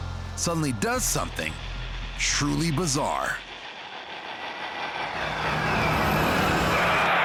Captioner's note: tires squeal